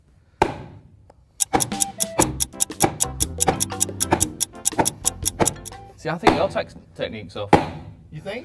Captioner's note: clock ticking